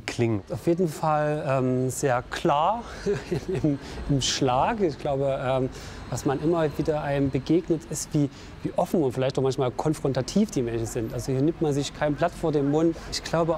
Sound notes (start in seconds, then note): 2.7 laughs